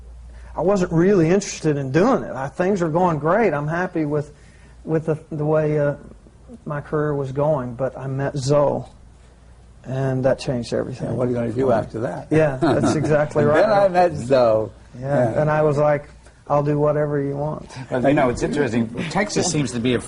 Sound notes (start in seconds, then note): 4.9 laughter